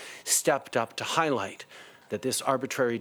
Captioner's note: speaking in French